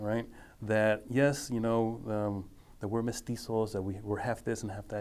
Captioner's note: speaking foreign language